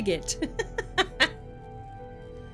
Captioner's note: laughing